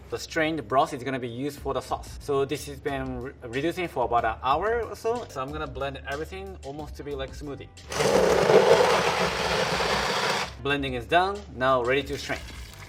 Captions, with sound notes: The strained broth is gonna be used for the sauce. So this has been reducing for about an hour or so. So I'm gonna blend everything almost to be like smoothie. [blender running] Blending is done, now ready to strain.